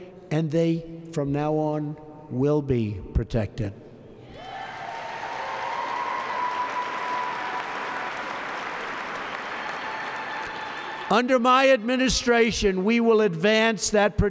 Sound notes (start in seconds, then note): 4.4 applause